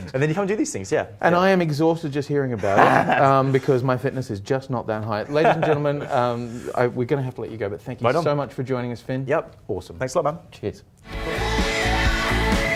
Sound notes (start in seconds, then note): 5.2 laughing